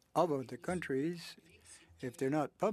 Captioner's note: speaking French